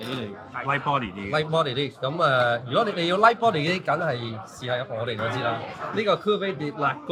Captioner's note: speaking in foreign language; staff 2 speaking in foreign language